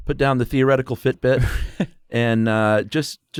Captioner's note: chuckles